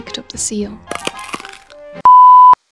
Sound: bone-crunching sound

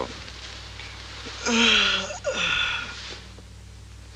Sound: yawns

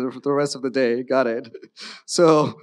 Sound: chuckles

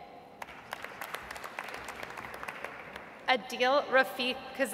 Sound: audience applauds

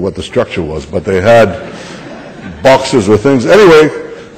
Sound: laughter

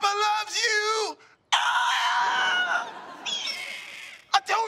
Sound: squawking

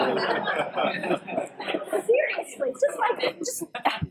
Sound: laugh

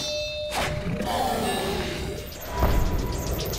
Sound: growling

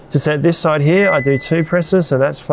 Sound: fridge beeps

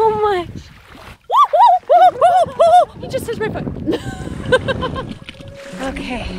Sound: screaming

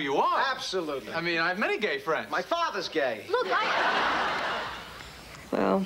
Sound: laughter

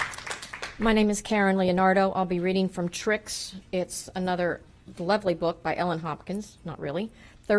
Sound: applause

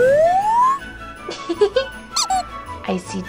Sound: comical flute whistles; comical duck squeak; giggles

